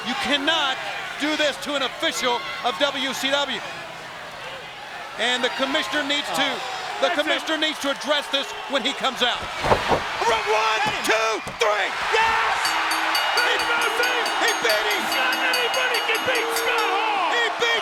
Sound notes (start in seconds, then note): 12.6 bell rings